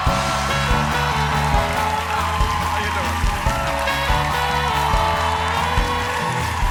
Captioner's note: band playing; cheers and applause